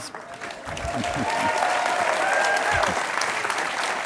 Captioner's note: audience cheers